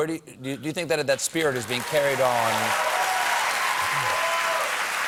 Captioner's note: cheers and applause